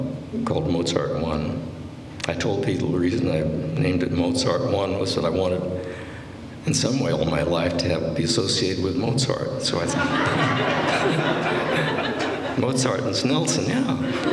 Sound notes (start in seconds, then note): 9.8 laughter; 13.9 laughter